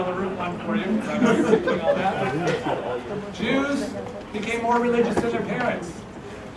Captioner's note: laugh